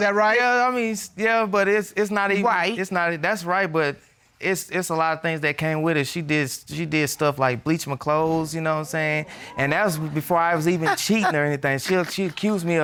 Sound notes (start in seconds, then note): 8.9 audience exclaiming; 10.8 scoffs